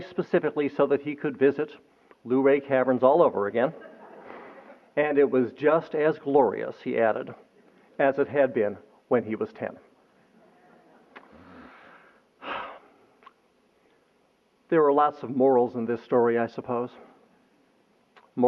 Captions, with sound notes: specifically so that he could visit Luray Caverns all over again. [LAUGHTER] And it was just as glorious, he added, as it had been when he was ten. [SIGH] There are lots of morals in this story, I suppose.